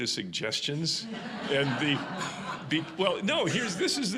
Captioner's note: audience laughing